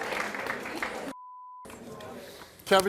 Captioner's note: beep